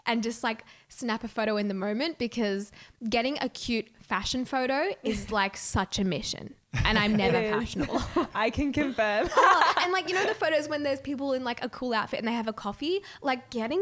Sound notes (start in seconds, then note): 9.0 laughing